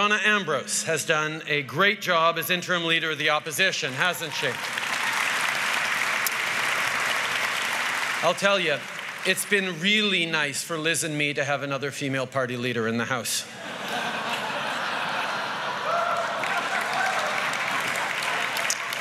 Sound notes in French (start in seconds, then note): 6.4 Applaudissements; 13.5 Rires